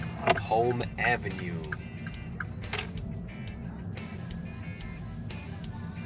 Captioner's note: car blinker clicking